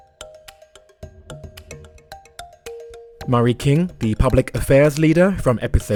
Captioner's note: voiceover